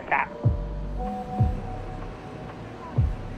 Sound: WhatsApp Notification

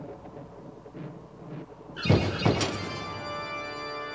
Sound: door knocker screeches and thumps

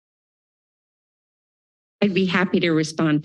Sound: silence

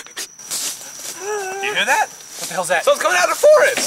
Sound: crickets stridulating; wolf hauls

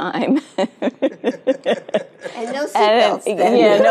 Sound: Isabel laughing

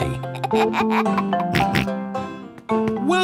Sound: giggles, snorts

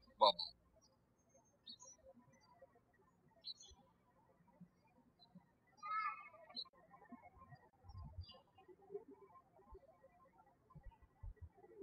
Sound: birds chirping

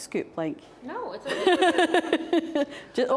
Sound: laughing

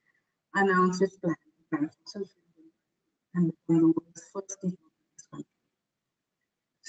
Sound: audio static

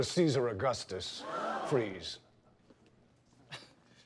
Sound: gasps; laughs

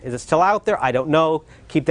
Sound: gasps of shock

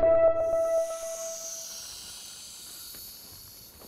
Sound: synth music; hissing

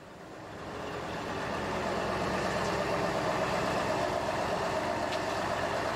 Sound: truck engine rumbling

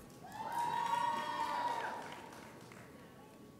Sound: audience cheers

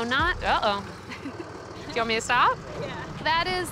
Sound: laughs

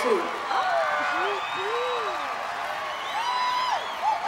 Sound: cheers and applause

